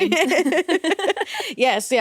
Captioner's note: both laughing